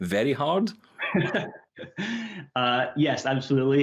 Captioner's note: laughing